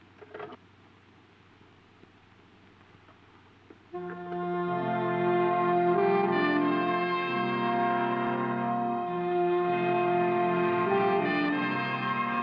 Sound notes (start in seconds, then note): 0.6 phone thudding; 4.0 uptempo dramatic music